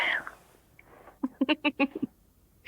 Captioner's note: Stef giggles